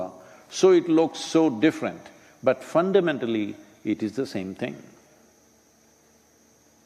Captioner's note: none